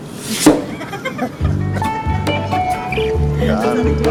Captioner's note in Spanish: Riendo